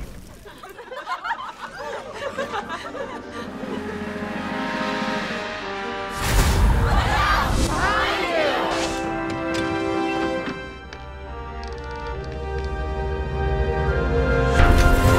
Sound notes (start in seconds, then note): 0.2 crowd laughs; 4.4 music rises; 6.1 swoosh noise; 9.1 music rises